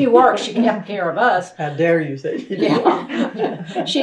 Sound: laughter

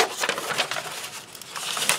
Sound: paper folding

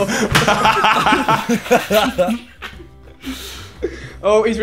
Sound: everyone laughing

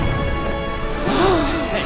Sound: gasping

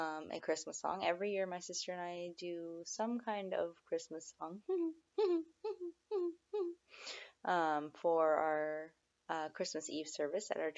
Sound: hum

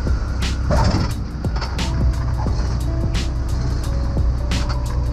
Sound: plane wheels squealing

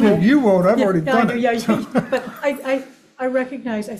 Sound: chuckles

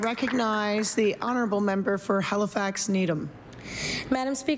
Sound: applause

